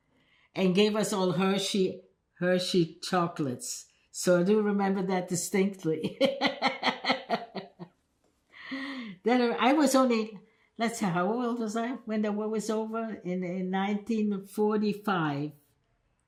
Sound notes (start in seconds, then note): 6.0 laughing